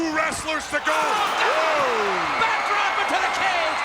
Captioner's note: Jim exclaims